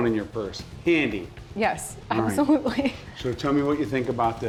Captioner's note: laughs